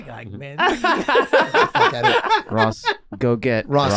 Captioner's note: group laughing